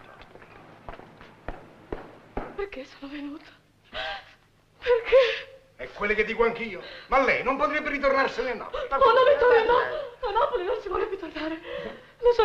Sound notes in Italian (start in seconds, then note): 5.6 piangendo